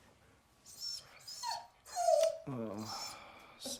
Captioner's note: dog whines